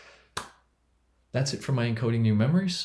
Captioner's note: hands clapping